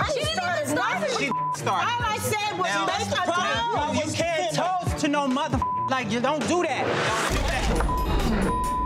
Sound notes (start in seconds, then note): 1.2 beep; 5.6 beep